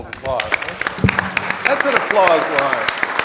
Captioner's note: audience clapping